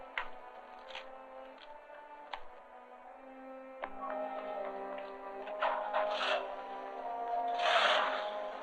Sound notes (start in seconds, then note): 5.5 engine starting